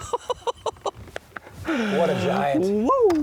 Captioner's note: laughing